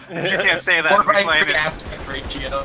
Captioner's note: lobby Laughter